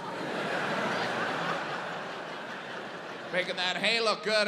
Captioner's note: audience laughs